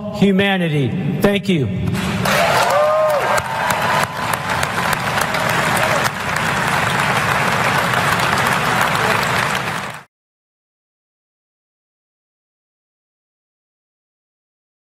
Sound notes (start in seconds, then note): 4.1 applause